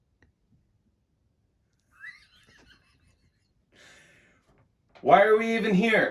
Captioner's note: laughs